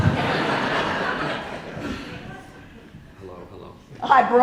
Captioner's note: audience laughing